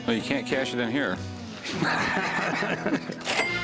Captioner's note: laughter